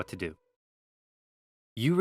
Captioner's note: silence